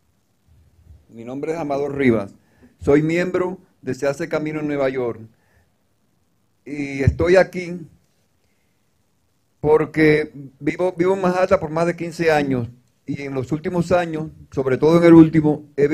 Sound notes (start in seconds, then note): 3.5 speaking in foreign language